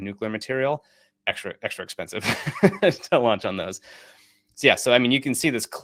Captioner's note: chuckles